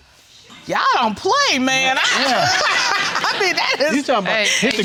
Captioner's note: laughing